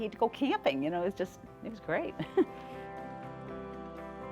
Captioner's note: laughing; soft, uplifting music